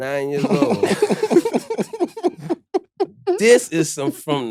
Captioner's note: chuckling